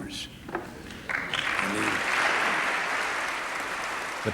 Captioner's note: applause